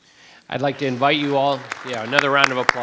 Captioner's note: group applauds